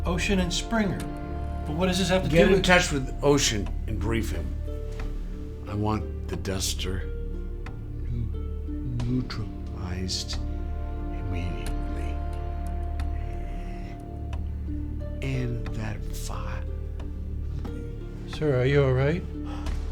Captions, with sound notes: Ocean and Springer. But what does this have to do-- Get in touch with Ocean and brief him. I want the Duster [stutters] neutralized immediately and that file. Sir, are you alright?